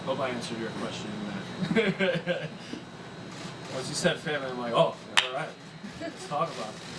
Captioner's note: laughs